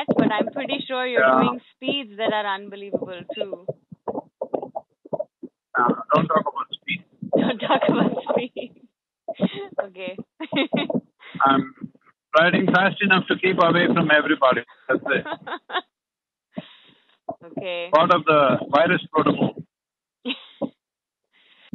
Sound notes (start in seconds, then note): 10.4 laughs